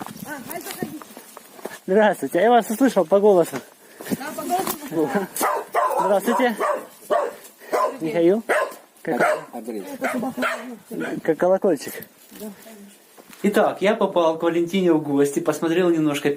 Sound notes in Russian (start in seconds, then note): 8.0 лай собаки во дворе